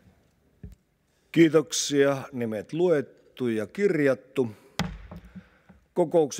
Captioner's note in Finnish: kopauttaa nuijaa